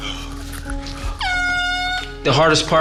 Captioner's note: horn honks